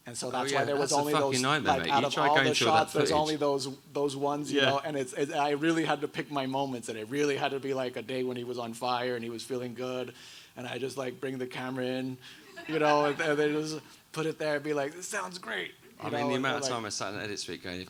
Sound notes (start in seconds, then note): 12.5 audience laughing